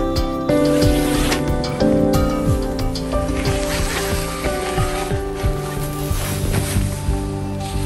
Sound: sound of the zipper opening

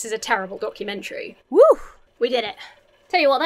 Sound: sighs

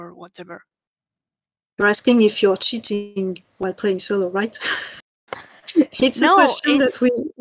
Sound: laughs

